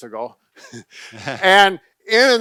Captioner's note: laughs